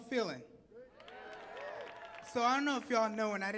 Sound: audience clapping and cheering

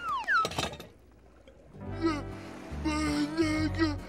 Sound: sputtering

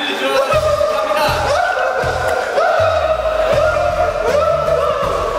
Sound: is laughing but not doing poorly

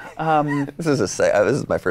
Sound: laughs

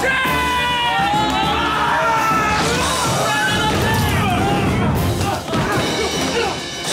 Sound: screaming

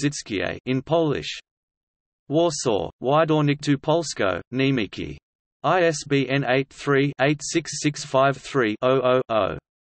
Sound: in Polish

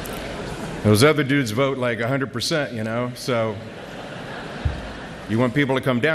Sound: laughter

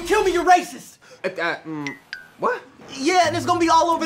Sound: stammering

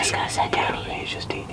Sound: whispering

